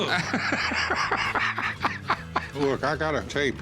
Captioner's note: laughs